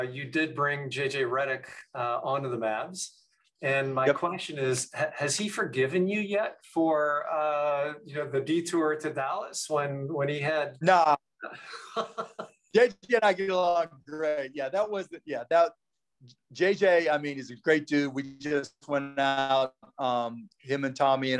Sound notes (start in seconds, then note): 11.4 both laughing